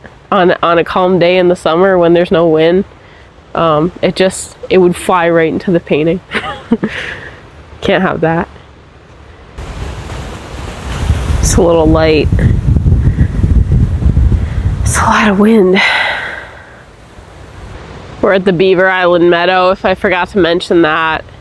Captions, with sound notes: on a calm day in the summer when there's no wind it would just - it would fly right into the painting (chuckles) can't have that that's a little light (sighs) that's a lot of wind we're at the Beaver Island Meadow, if I forgot to mention that